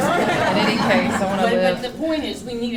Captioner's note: laughter